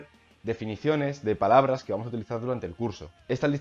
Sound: only in spanish

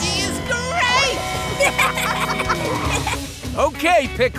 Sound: laughing

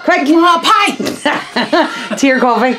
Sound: laughing

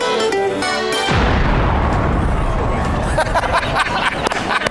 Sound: boom

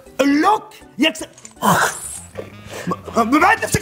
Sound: bites

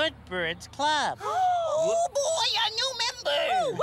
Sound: birds gasp

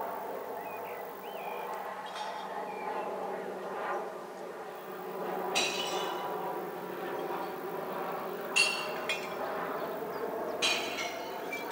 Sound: birdsong, airplane noise; birdsong, airplane noise, glass clinking noises from waste glass containers

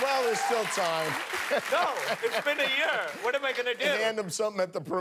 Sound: cheers and applause

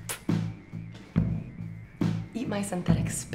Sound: spits

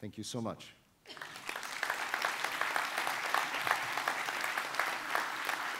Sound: audience applauding

